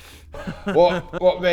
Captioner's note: bitter laugh